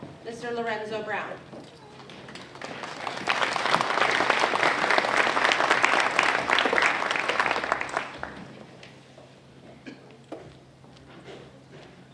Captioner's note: applause